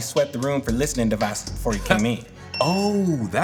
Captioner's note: beep